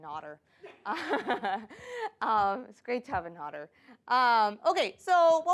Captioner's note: laughs